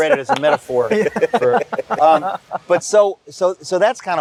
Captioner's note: laughter